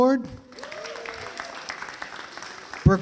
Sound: applause

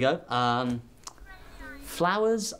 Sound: clicks tongue

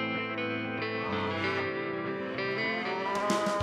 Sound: cows moo

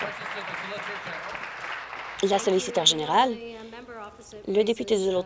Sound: applause

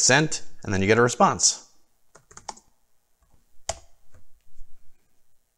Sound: keyboard typing

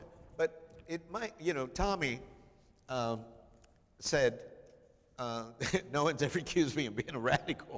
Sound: chuckling

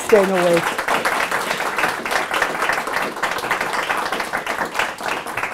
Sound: audience applauding

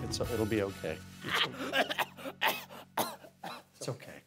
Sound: coughing

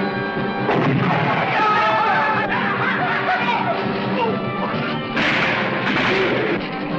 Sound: explosion booming; shouting; guns firing

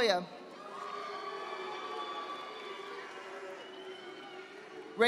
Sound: audience applauding

